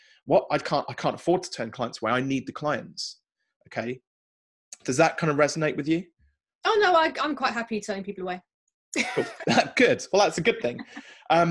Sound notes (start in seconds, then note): 10.3 laughing